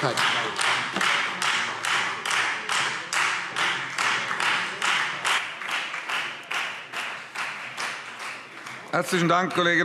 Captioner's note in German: Beifall Freie Demokraten